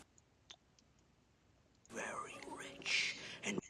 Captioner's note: audio skipping